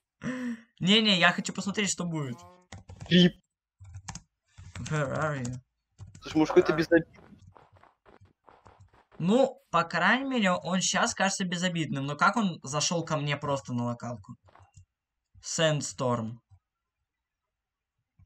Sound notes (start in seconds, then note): 3.8 typing